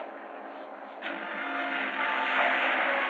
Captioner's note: engine rumbling